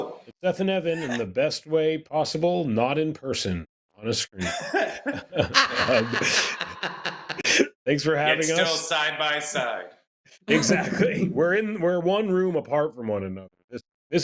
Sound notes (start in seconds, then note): 4.4 laughter